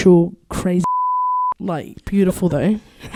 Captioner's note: beep